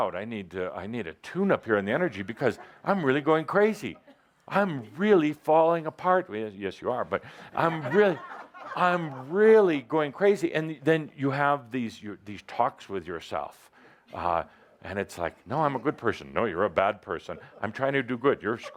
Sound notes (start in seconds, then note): 7.2 laughter